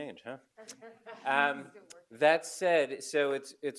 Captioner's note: audience laugh